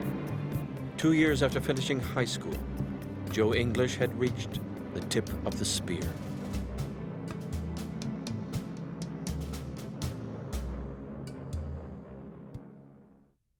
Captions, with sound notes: Two years after finishing high school, Joe English had reached the tip of the spear. (buzzing motors)